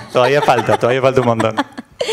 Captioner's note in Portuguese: Risos